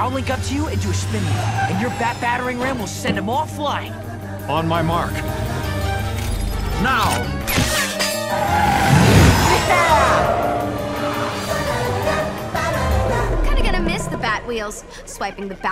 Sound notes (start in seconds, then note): 7.7 clangs; 7.7 tires screeching